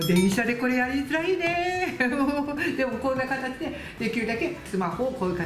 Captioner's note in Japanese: 笑い